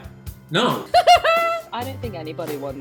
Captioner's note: laughs